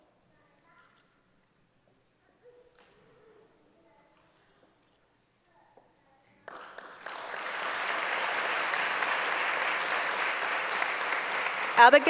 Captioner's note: applause